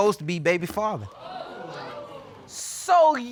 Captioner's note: audience exclaiming